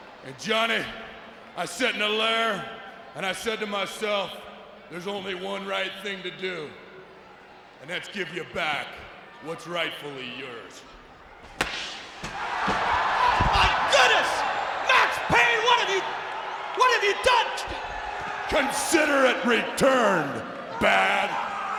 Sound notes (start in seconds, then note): 11.6 Badd Blaster blasts; 12.5 spectators cheering; 21.6 groaning